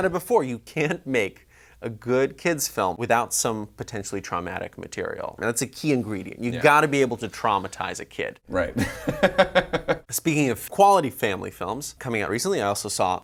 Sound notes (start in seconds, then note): 8.6 laughs